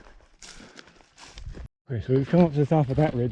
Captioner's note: gravel crunching